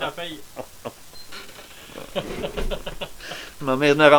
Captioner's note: laugh